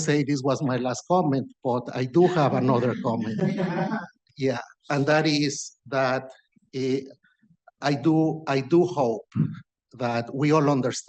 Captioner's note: laughter